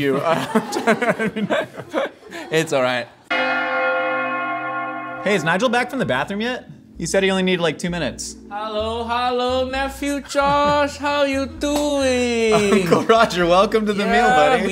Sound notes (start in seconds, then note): 0.0 laughing; 3.3 bells Ringing